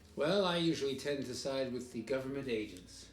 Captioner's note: none